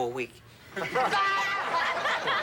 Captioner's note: laughing